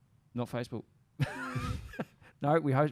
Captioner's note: laughs